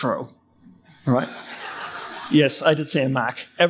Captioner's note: audience laugh